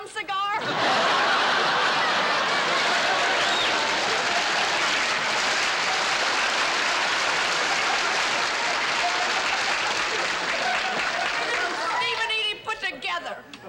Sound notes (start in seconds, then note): 0.6 laughter; 2.1 cheering